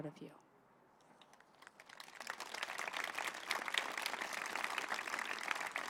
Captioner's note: applause